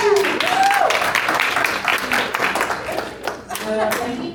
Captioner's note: applause